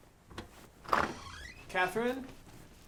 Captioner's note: clothes shuffling; door clicks open and squeaks